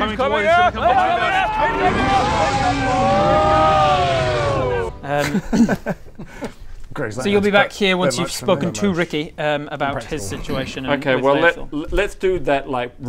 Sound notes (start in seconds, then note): 1.5 breathtaking_roar.mp3; 5.1 giggles